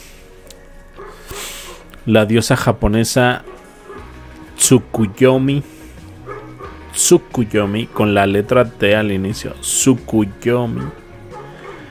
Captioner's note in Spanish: resoplido